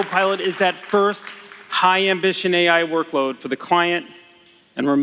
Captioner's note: applause